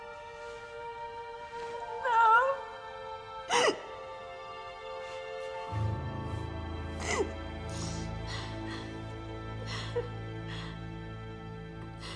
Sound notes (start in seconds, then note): 3.4 sobbing; 6.8 sobs, sniffles; 9.5 sobs